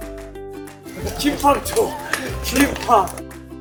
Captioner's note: the desperate cry